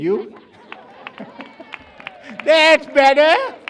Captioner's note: cheers